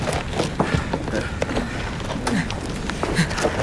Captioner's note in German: Ächzen